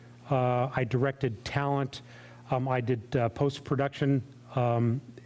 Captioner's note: none